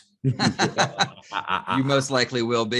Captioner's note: both chuckle